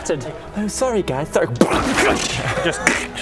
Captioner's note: boop